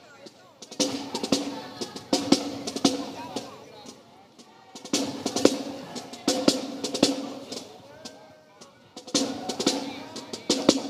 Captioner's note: crowd chattering; snare and bass drumming continues